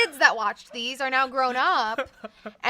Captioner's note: laughs